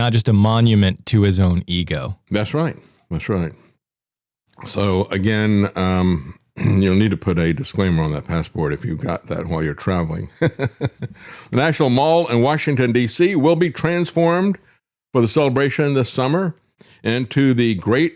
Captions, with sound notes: just a monument to his own ego. That's right, that's right. So again, you'll need to put a disclaimer on that passport if you've got that while you're traveling. (Laughs) National Mall in Washington, D.C. will be transformed for the celebration this summer into the Great